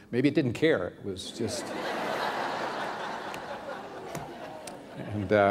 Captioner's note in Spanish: risas